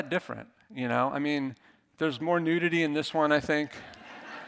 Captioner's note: audience laughing